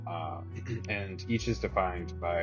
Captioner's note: clears throat